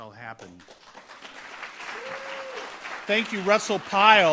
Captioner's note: audience applauds